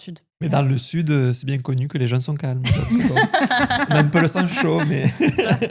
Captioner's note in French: rires